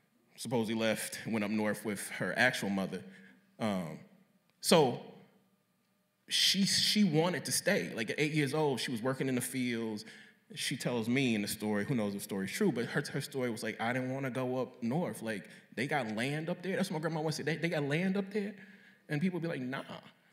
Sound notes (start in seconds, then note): none